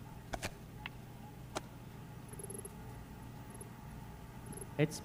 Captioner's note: text beeping